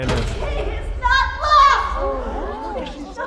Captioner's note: crowd gasping